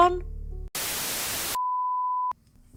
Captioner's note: static